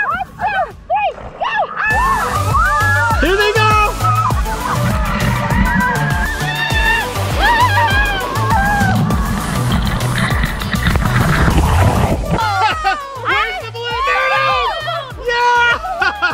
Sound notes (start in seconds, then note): 2.1 girls screaming; 4.6 upbeat music